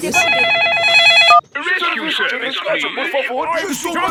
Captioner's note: phone ringing